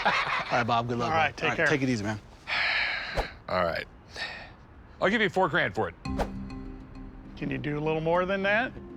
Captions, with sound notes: - [laughs] - All right, Bob, good luck. - All right, take care. - All right, take it easy, man. - [sighs] All right. - I'll give you four grand for it. - Can you do a little more than that?